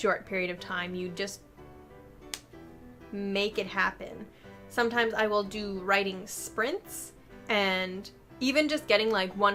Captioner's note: strikes hand